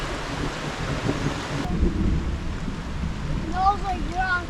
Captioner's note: thunder rumbling